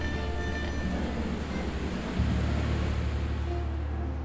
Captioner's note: water burbles